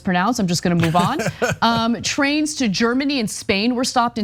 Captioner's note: laugh